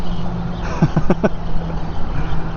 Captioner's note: laughs